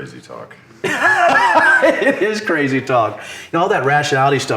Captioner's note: laughing